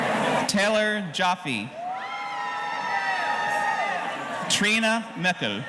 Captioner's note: audience cheering